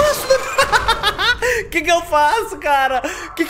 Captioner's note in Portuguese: risos